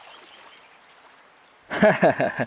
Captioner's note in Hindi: हँस